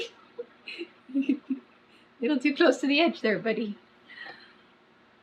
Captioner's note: laughs